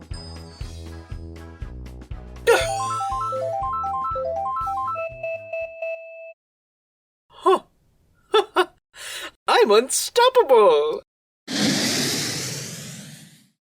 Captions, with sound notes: (Item Box breaks with the sound of the Item Roulette playing) Huh… Hah hah! I’m unstoppable! (Spray Paint flies off)